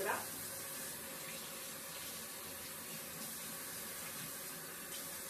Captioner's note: running tap water